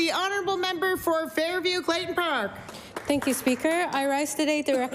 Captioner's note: applause